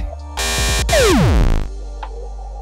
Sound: buzzing, whirring, a computer shutting down

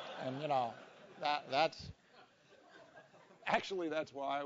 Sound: laugh

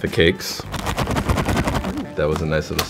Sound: Jaffa Cakes thudding

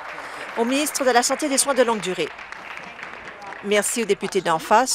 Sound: applause

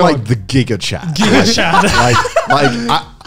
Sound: laughing loudly

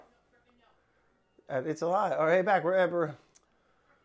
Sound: voice muffled

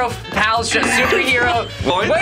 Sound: buzzer buzzes

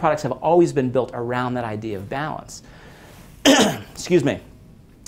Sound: clears throat

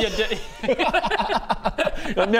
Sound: unconcerned laughter

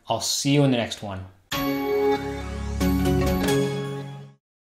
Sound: Intel bong

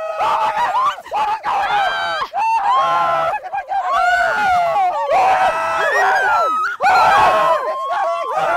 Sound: screaming; more screaming

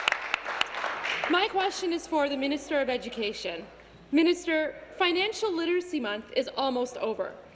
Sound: applause

